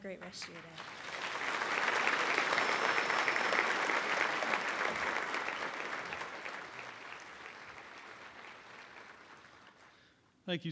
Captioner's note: applause